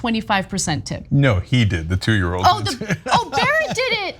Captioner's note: laugh